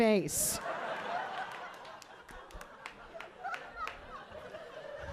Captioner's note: audience laughing